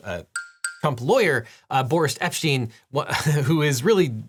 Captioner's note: quotes ding